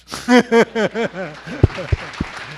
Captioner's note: laughing; applause